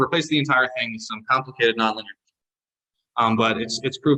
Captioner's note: audio distortion